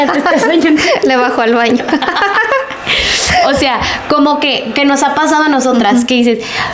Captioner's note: laughs